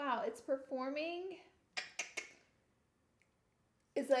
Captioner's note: tongue clicking